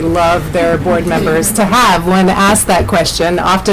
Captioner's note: laughter